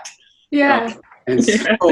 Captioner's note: laughs